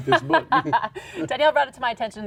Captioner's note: laughing